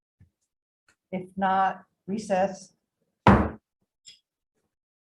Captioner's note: gavel bangs